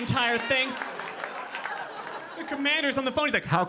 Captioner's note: audience laughing